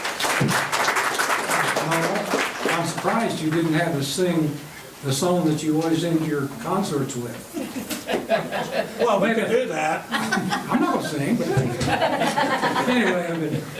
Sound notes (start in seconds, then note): 5.3 members chuckling